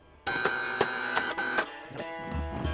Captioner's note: buzzing